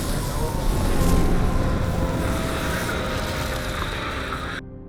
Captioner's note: water splashing; sirens wailing